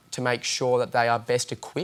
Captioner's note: none